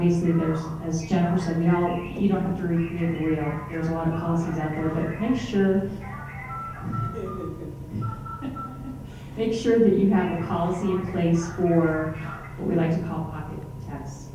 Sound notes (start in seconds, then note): 7.5 phone intercom interruption; 9.7 laughing